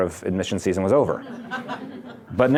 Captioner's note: laughter